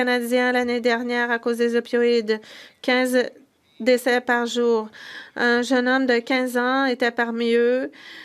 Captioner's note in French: voix de l'interprète